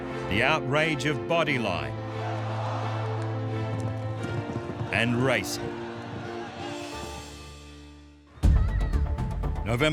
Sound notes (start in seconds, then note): 2.0 crowd shouting; 8.4 children shouting